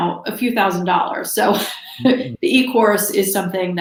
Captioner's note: chuckles